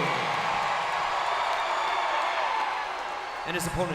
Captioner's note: audience cheering and clapping